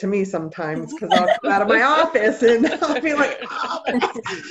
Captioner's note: laughter